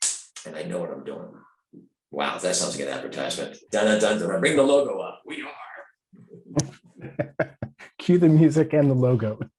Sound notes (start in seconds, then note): 6.5 both laughing